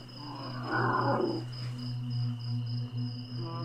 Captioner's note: grunting